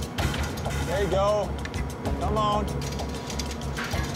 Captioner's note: shouting